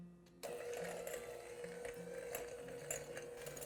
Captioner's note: mixer hums